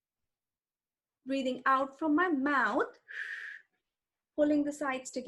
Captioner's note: exhales sharply